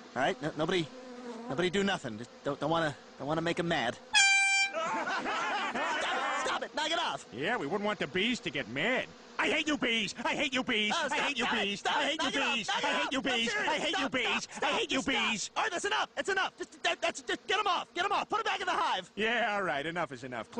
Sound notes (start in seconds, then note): 4.2 whistles louder; 4.7 all laughing